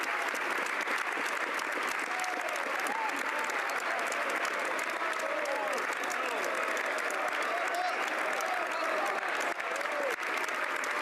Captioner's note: applause